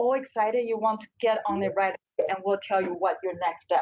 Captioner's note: audio skips